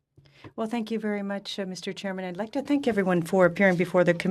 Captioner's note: speaking French